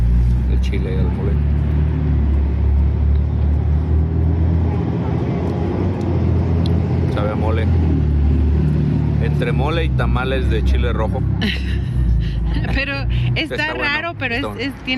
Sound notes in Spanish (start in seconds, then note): 11.4 risas